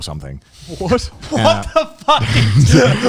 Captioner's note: yelling